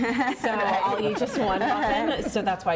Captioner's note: laughter